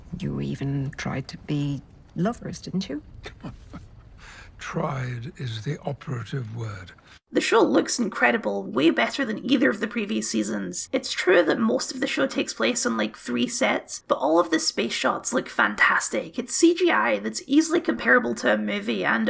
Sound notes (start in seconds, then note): 4.9 scoff